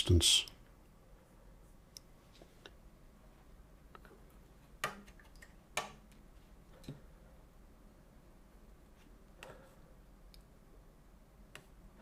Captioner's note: silence